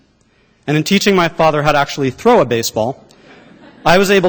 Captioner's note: laughter